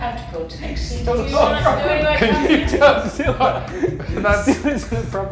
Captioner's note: laughs